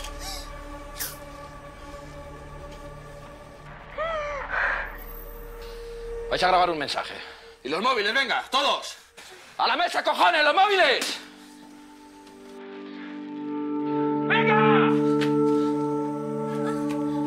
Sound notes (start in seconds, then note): 4.0 wheezing